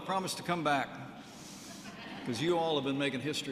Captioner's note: laughter